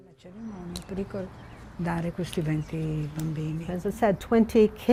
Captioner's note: speaking in foreign language